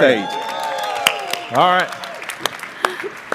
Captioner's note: audience cheering